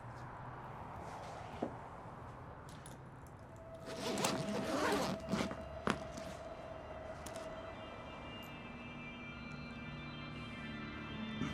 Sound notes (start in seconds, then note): 3.8 zipper unzipping; 7.2 dramatic music